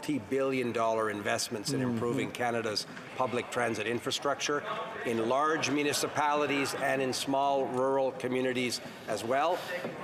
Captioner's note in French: voix de l'interprète